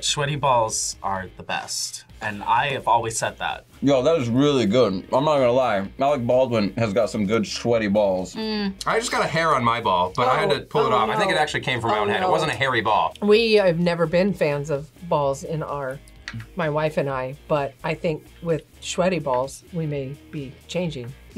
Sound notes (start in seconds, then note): none